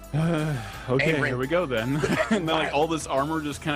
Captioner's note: chuckling